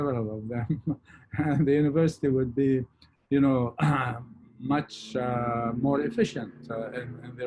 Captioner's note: chuckles